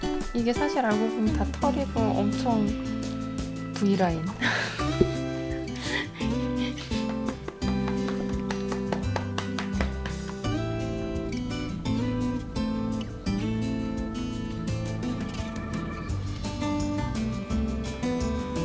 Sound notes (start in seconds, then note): 5.7 laugh